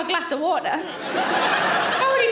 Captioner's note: audience laughing